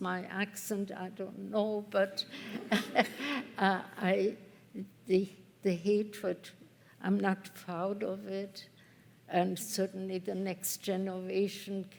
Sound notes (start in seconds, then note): 2.4 chuckles